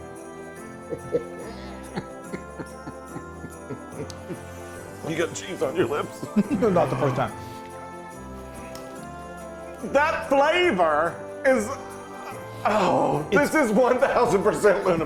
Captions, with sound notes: (happy chuckling) - You've got cheese on your lips. - That's not the first time. - That flavor is-- oh, this is 1,000 percent Loon Approved.